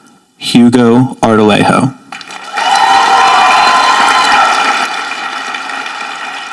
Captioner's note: audience applauding